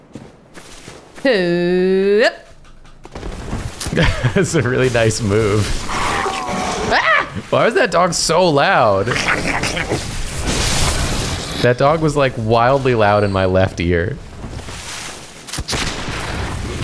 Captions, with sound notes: He-yup! That's a really nice move. Ah! Why is that dog so loud? [snarling] That dog was like wildly loud in my left ear.